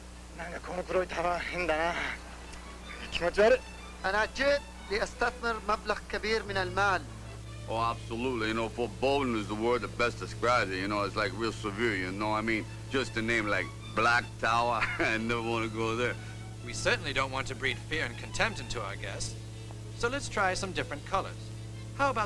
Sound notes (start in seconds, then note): 0.2 speaking foreign language